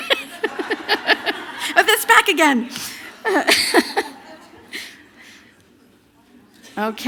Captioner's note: laughter; laughter